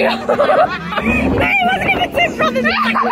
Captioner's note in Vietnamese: laughter